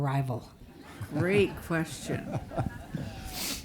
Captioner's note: audience laughing